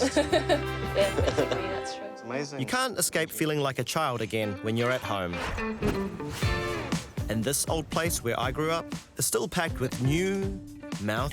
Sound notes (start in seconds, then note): 0.0 laughs; 7.1 funk music